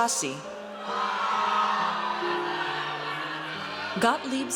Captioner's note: audience cheers